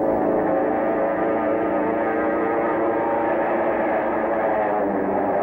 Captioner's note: airplane engine roaring